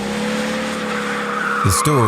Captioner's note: car engine roaring; car screeching